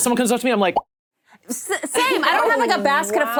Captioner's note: mouth pops